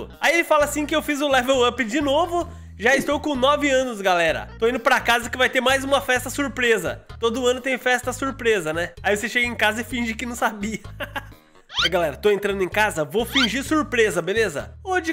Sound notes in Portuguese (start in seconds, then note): 10.8 risos